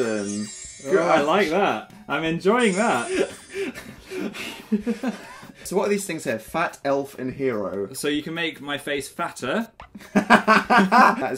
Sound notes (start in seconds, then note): 3.0 creeped out laughter; 10.0 laughter